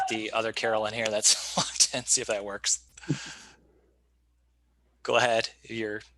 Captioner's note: chuckling